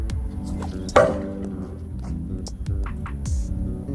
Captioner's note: loud clang